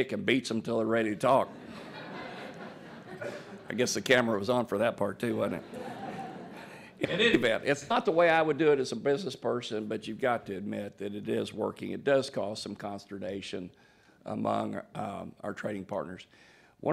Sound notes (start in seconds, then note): 1.4 laughter; 5.4 laugher